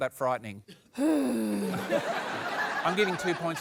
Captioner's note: sighs